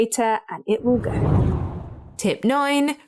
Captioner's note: air whooshing